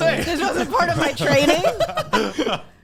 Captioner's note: laughs